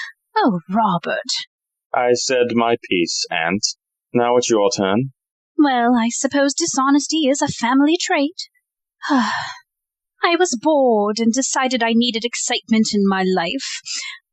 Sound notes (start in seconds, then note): 5.2 she sighs